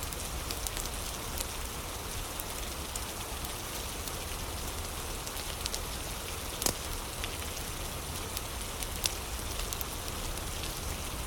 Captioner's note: fire crackling